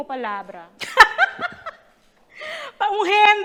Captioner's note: teacher laughing sarcastically